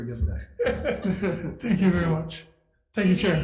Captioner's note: laughs